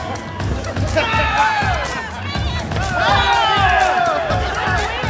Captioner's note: crowd heckling